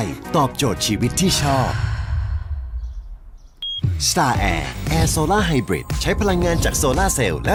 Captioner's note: sigh